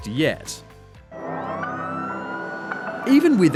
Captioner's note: siren wails